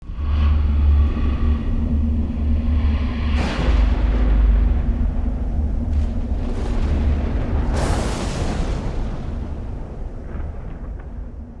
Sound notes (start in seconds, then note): 0.1 dramatic music; 3.4 thunder rumbling